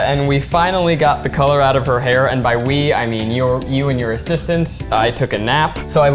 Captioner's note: none